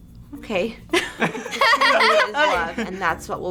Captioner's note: both laugh; laughs